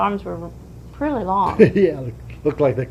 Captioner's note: laughs